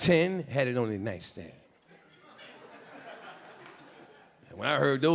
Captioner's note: a few audience members laughing